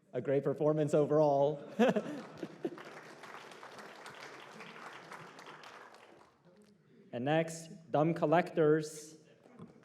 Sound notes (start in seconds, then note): 1.8 applause